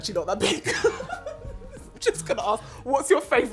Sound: laughs

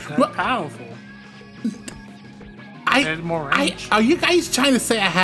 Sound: stuttering

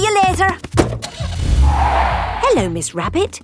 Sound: car starting; tires screeching

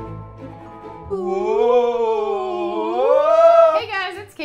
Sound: making ghost sounds

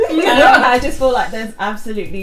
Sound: laugh

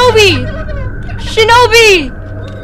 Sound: laughing

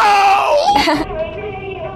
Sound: woman laughs; creepy music

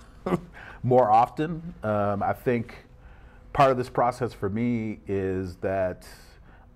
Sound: chuckles

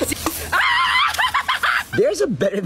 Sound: excited screaming

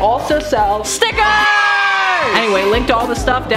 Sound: crowd of children cheering

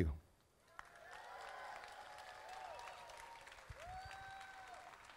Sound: crowd applauding

